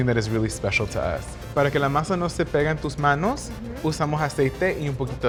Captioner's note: speaking Spanish